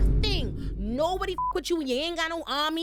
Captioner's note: beep